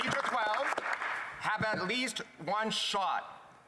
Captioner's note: some Applause